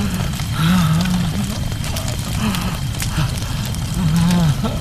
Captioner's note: crying